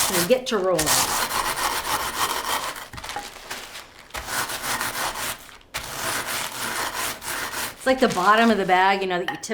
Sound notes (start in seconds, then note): 2.8 chips crunching